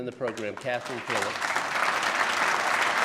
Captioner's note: applause